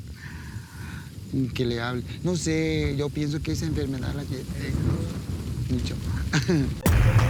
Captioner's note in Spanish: risa